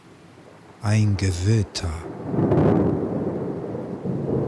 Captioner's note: german